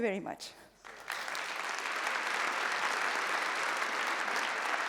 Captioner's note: applause